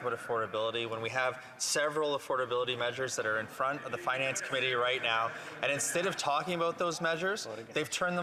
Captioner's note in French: voix de l'interprète